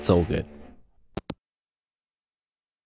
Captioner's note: hangup